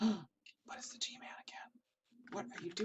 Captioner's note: whipsering